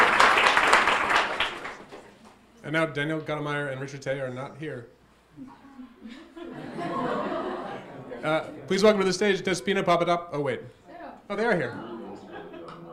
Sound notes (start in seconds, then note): 5.5 audience laughing; 11.6 audience laughing